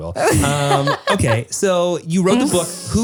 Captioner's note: laughs